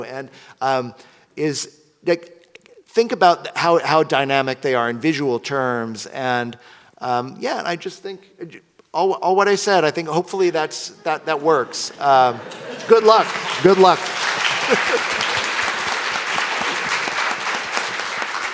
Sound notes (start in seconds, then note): 14.8 audience applauds